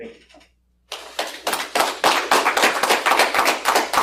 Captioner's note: applause